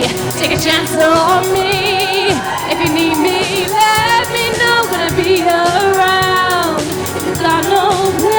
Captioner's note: audience applauds